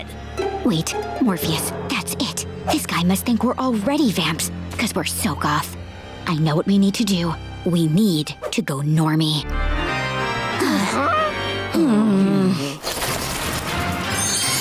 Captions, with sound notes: Wait, Morpheus, that's it! This guy must think we're already vamps! Cause we're so goth. I know what we need to do; we need to go normie. [eerie piano music playing] [gasping] [groaning]